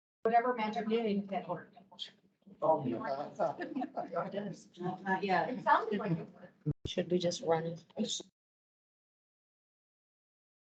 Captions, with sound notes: Whatever magic we're doing, [indistinct chatter] Should we just run...